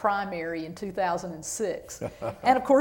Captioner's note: laughter